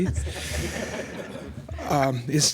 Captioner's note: laughter